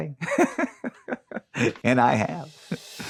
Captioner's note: laughing